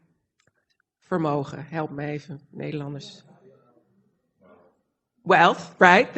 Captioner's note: foreign language